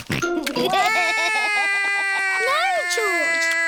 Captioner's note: george laughs; cries